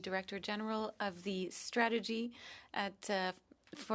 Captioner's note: speaking French